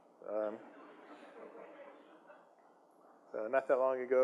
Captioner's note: audience chuckles